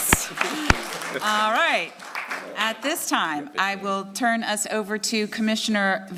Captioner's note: applause